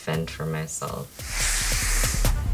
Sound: hissing

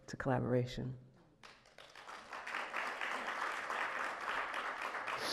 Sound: audience clapping

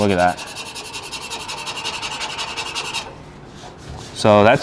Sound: metal screeching

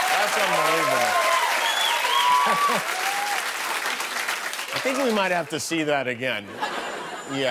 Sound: cheers and applause

